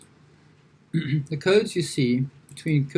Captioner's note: clears throat